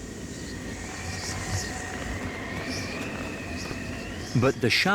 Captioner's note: wind howls